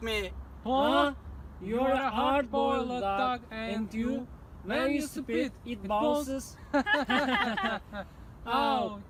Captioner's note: laughter